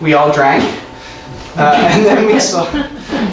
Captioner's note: laughing